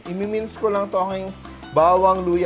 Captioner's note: sizzle